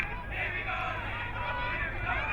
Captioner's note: crowd